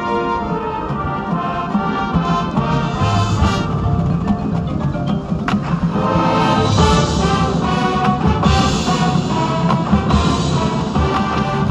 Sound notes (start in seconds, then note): 7.2 gay spinning noises